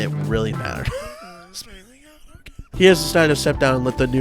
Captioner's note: forced laughter